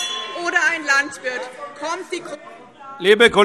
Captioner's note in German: Anhaltende Unruhe - Glockenzeichen